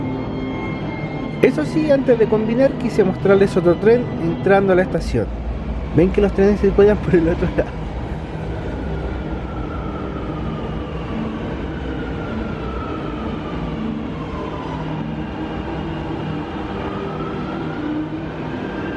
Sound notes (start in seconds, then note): 7.0 laughs